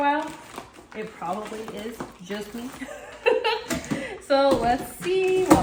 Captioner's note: laughs